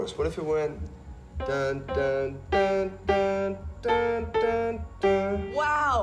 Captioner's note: hums "%*#le, %*#le, Little Star"